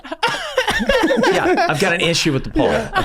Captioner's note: gang laughing